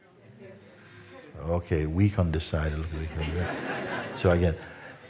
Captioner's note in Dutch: gelach